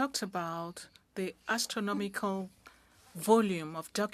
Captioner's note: speaking french